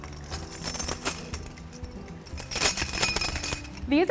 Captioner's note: chimes jingle